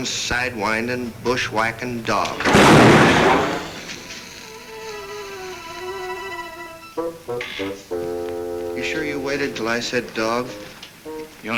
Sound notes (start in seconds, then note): 2.1 gun bangs